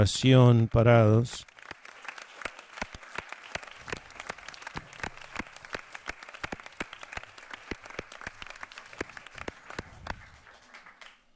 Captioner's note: applause